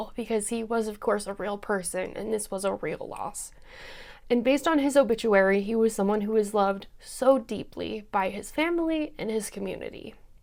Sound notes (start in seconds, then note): none